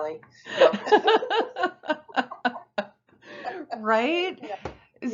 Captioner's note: both laugh